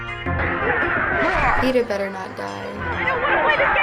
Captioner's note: battle cry